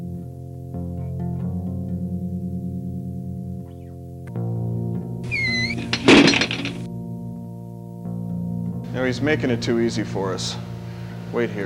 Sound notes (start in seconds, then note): 5.3 door slams